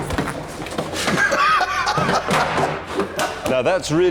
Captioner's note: jeremy laughs